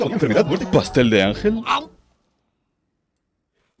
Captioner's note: chomp!